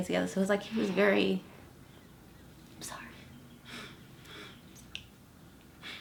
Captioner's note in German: schnieft